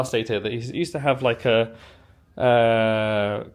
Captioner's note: none